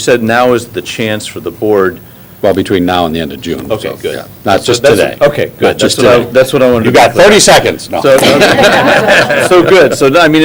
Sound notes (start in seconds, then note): 8.1 laughter